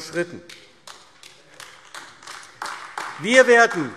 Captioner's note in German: Beifall AfD